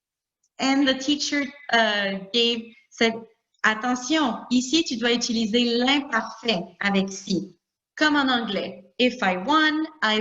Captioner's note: talking in French